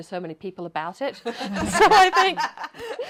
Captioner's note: laughs